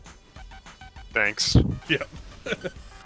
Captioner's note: laughs